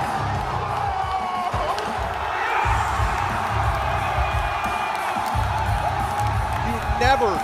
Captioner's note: cheers and applause